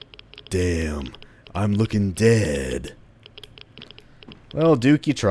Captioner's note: duke nukem voice